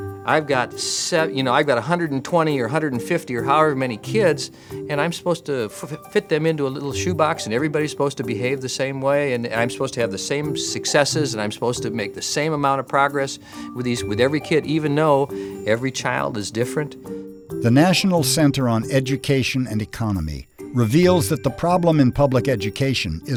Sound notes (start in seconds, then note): 17.7 voiceover